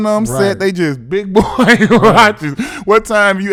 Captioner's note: laughs